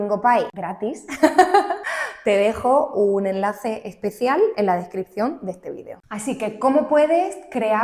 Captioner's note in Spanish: risas